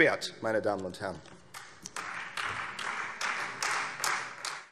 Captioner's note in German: Anhaltender Beifall Freie Demokraten